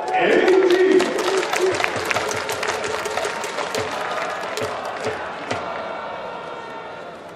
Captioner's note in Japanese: 拍手･応援